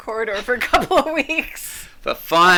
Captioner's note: laughs